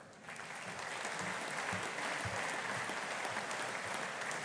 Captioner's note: audience applauding